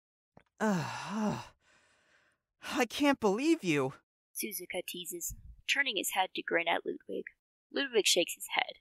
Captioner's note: lightly groans